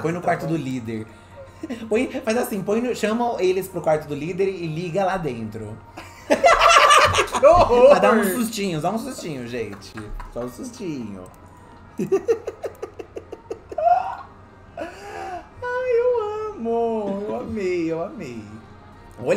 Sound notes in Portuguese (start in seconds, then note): 6.2 gargalhada; 11.9 risada